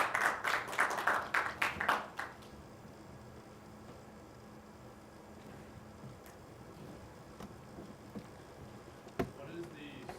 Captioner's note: applause